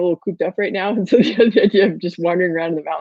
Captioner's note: laughing